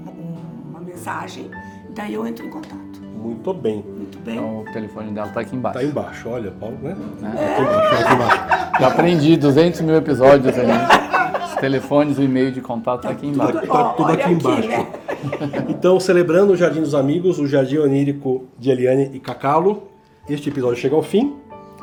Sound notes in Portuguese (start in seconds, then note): 7.4 risos